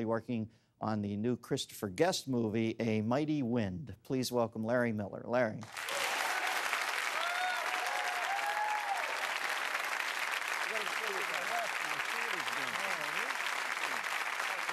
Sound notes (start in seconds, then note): 6.5 cheers and applause; 14.5 applause